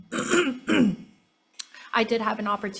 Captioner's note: throat clears